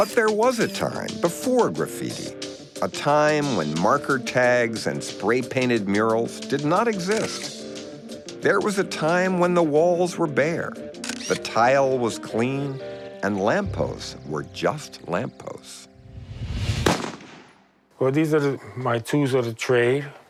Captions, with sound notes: But there was a time before graffiti, a time when marker tags and spray painted murals did not exist. There was a time when the walls were bare, the tile was clean and lampposts were just lampposts. (gun blasting) - Well these are my tools of the trade